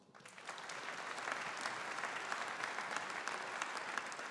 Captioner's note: audience applauding